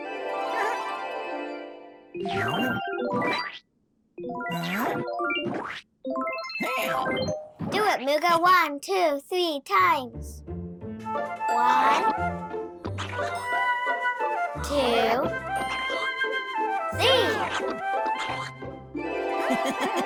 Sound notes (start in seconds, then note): 0.0 bright music; 0.2 Mooga laughs; 2.3 electronics warbling; 10.4 bright jazzy music; 19.0 chiming music; 19.4 yellow creature laughing